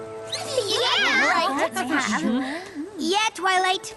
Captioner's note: agreeing chatter